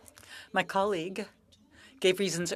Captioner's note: speaking French